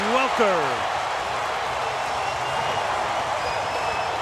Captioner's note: cheering